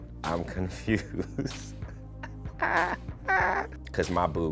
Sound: laughs

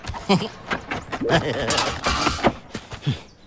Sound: laughter

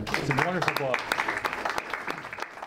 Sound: applause

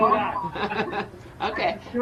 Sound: both laughing

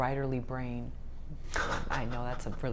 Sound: laughs

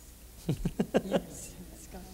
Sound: laughter

